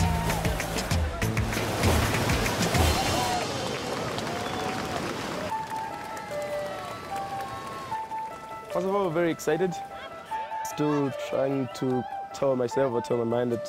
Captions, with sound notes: (WATER ROARS) (APPLAUSE) Everyone is very excited. I'm still trying to tell myself that I'm ready for this.